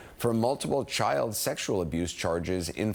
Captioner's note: none